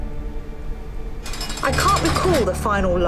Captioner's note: bars rattling